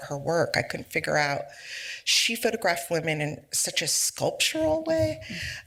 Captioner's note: none